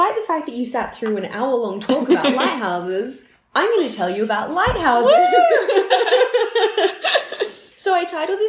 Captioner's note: laughter